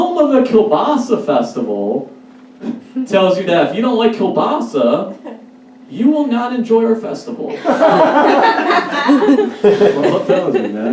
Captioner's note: audience Laughs